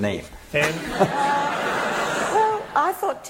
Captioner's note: laughter